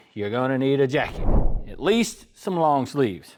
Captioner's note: whooshing